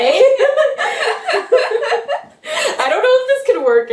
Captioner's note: laughter